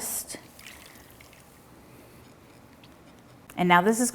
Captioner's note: liquid sloshing